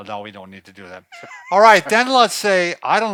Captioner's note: laughs